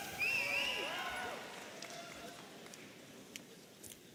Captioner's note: audience cheering